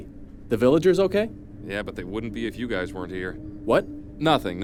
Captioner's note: hushed